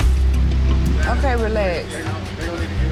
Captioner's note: people speaking indistinct; tense thumping music